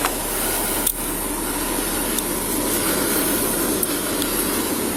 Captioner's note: hand cuffs click